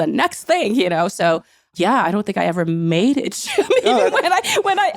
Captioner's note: laughing